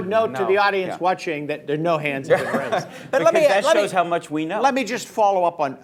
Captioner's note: laughs